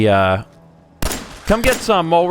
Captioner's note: blam!